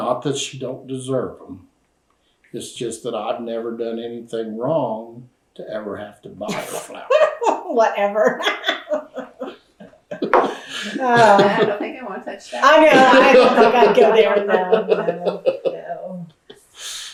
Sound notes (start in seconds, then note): 8.7 laughs; 10.1 laughter